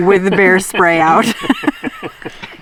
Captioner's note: laughing